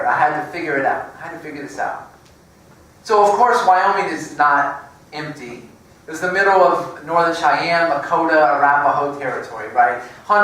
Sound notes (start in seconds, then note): none